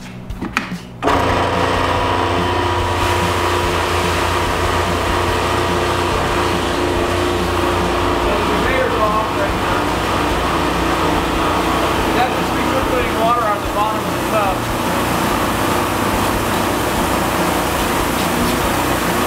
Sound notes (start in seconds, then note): 1.3 motor rattling; 3.5 water spraying; 16.1 motor rattling continues; 19.0 water spraying continues